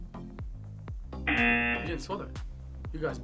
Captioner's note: klaxon blares